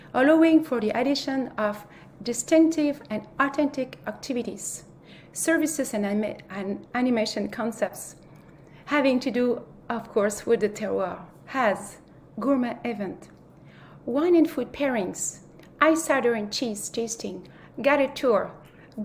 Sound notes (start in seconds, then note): 11.2 speaks French